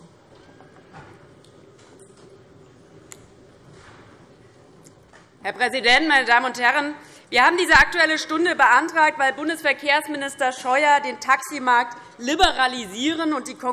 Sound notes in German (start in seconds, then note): none